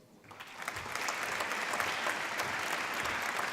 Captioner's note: applause